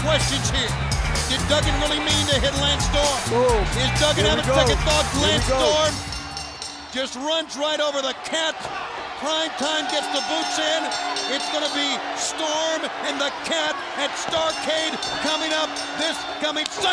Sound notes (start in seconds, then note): 9.8 bell ringing